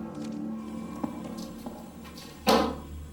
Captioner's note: footsteps tapping; lock thunking